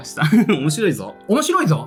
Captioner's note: laughs